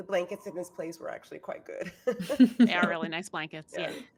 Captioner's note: chuckles